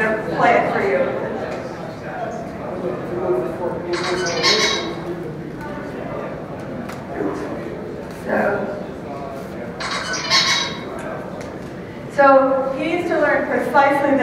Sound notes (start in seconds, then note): 3.9 bird sounds; 9.8 bird sounds